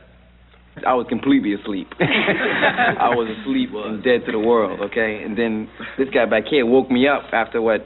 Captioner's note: laughs